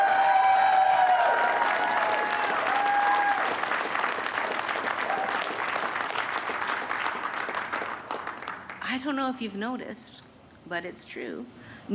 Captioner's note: cheers and applause